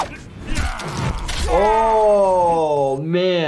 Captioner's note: yelling